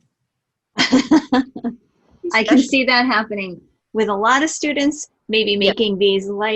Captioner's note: laughing